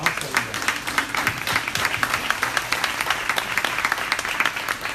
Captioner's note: crowd applauding